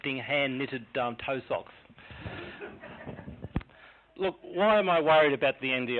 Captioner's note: laughing